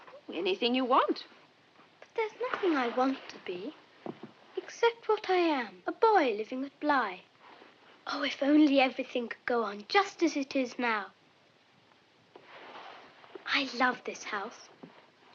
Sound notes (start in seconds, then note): none